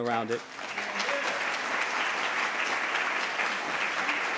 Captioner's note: applause